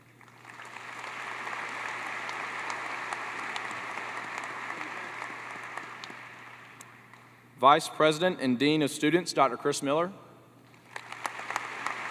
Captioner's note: applause